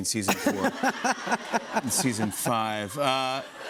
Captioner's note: laughter